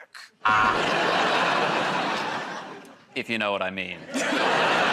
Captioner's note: buzzer; laughter